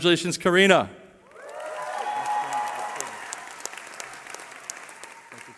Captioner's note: cheering